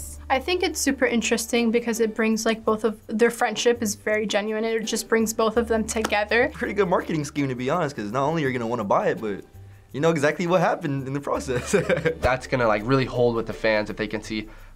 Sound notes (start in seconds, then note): 11.5 chuckles